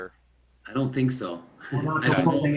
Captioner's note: laughing